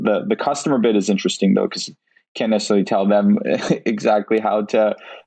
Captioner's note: laughs